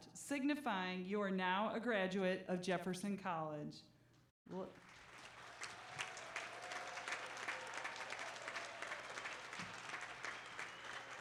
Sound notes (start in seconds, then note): 4.6 applause